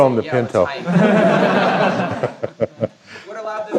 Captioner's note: laughter